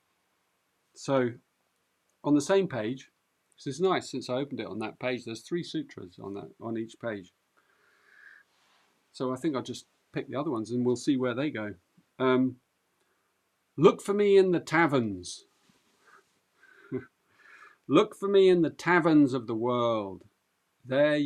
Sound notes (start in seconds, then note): 16.9 chuckles